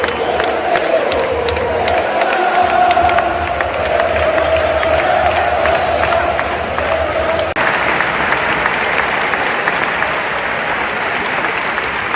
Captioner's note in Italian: Applauso